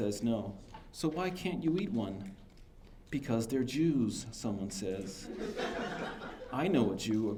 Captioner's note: laughter